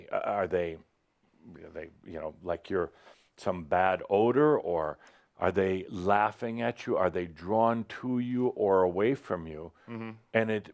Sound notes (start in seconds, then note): none